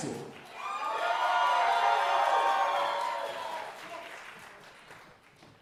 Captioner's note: audience cheering and applauding